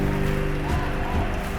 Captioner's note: shouting